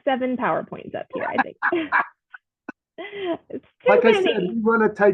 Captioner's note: laughs